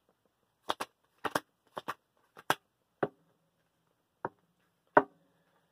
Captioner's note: card flipping ASMR